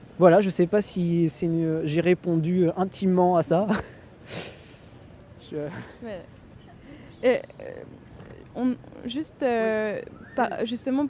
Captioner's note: laughs